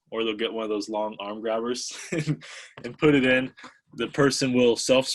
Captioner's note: laughs